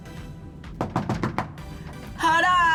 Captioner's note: door knocks five times